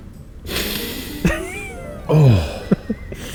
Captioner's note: sniffs; chuckles